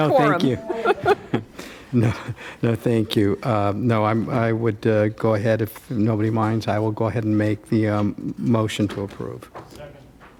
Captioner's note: laughter